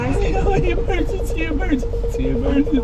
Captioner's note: whiny tone